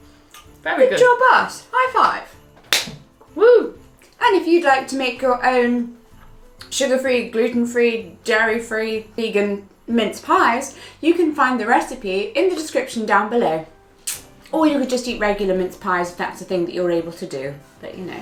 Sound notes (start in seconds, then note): 2.6 slapping